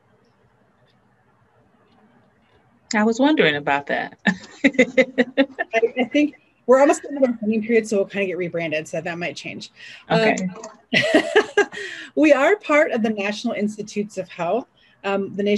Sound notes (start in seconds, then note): 4.2 laughs; 10.1 laughs